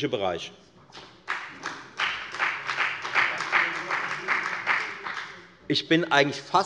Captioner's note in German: Beifall bei der FDP